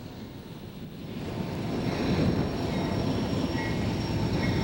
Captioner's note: train noises